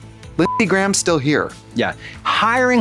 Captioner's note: beep